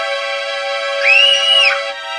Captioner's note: Nuriza screams